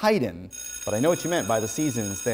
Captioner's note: bell ringing